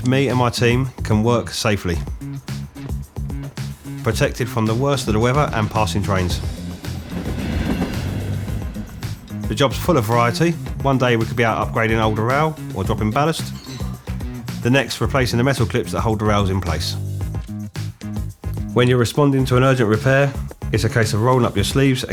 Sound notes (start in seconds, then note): 7.4 train engine roaring